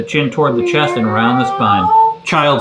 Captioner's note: man imitating cat meowing